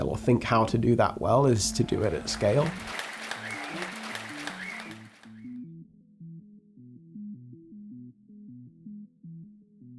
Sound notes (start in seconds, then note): 1.6 audience applauds